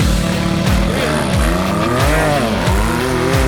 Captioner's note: engine Revving